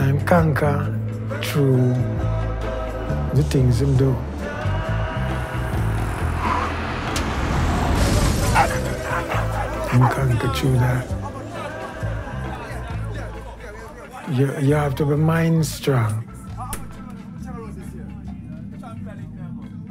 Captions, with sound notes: and him conquer through the things him do. (dogs barking) Him conquer through that. You have to be mind strong. (men chattering)